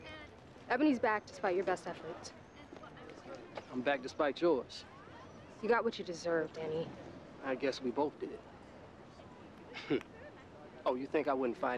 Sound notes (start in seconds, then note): 9.7 chuckles